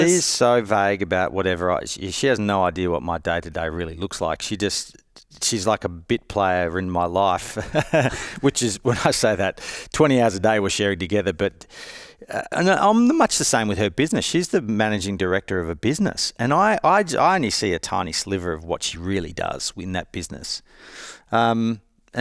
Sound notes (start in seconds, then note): 7.5 chuckles